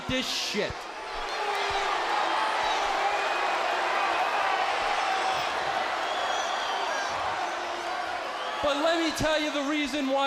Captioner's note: crowd cheering